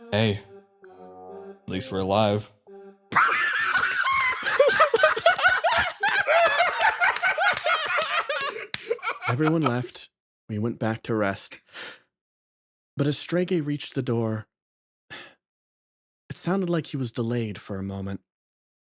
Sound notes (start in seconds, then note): 3.1 laughs